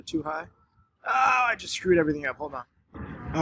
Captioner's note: frustrated groan